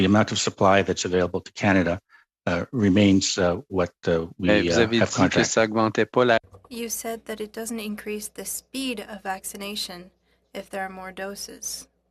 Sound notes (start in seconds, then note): 9.5 speaking French